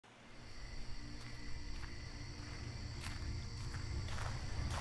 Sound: crickets chirping; soft music

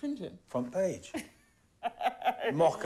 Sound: laughing

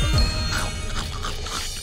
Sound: chewing

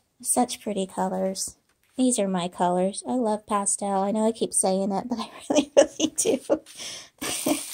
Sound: laughter

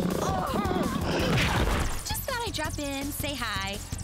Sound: roaring

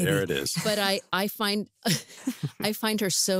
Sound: chuckles

